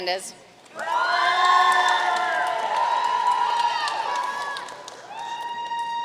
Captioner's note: audience cheering and applauding